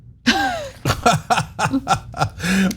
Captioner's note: laugh